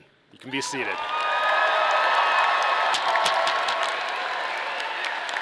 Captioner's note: audience applauding